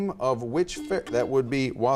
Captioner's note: buzzer beeps